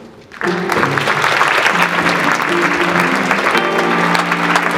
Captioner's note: audience clapping